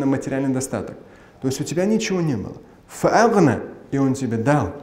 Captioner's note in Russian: говорит на арабском